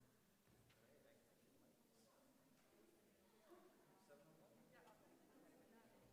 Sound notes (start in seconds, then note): 0.8 muffled chatter